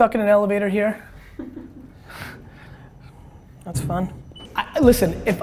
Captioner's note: laughs